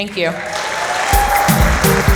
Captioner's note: applause